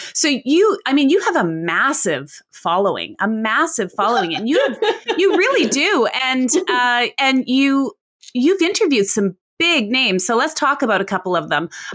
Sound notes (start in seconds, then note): 4.0 laughs